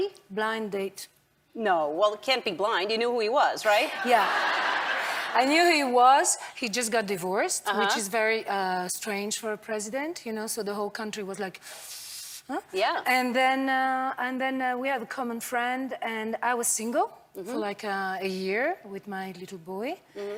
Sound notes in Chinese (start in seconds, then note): 12.1 吸氣